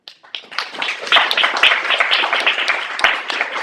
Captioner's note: applause